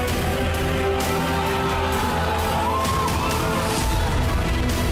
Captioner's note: crowd cheering